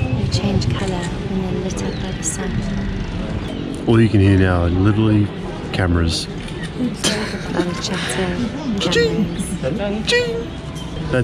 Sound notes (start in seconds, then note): 6.6 laughing